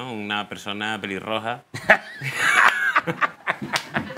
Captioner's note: laughs